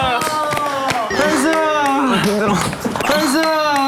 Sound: tired

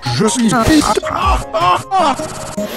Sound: realistic pirate laugh

